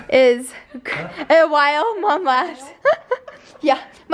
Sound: laughter

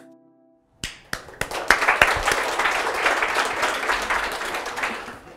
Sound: applause

